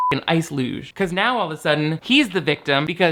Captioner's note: beep